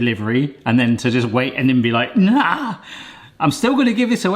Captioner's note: yells